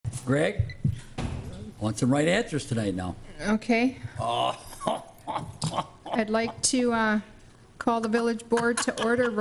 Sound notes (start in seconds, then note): 4.2 laughing